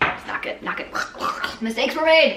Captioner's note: gurgling